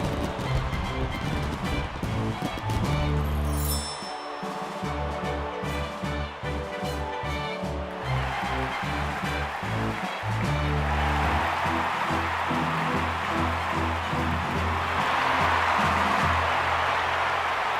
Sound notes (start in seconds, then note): 8.4 crowd cheering